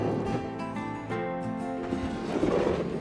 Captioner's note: drawer scratching